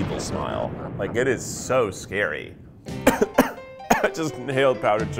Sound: coughing

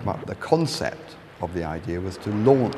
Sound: none

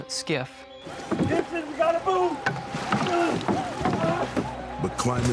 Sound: grunts

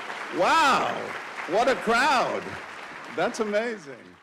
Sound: cheers and applause

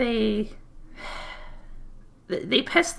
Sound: sigh

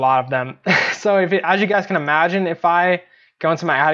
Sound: chuckles

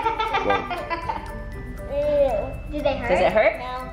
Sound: laughing

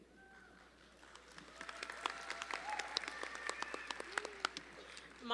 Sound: audience applauding

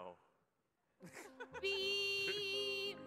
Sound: laughs

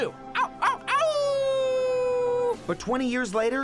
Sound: howling

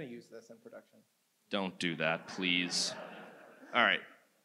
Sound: audience laughs

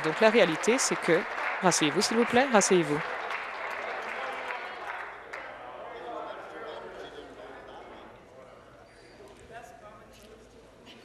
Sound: applause

